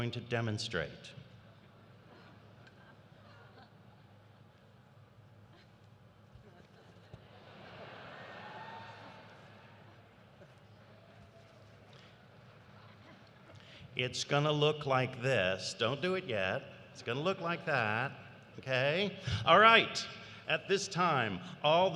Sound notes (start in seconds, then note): 6.4 laughter; 12.7 laughter